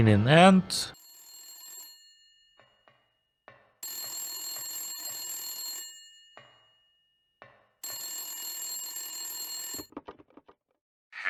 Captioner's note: phone rings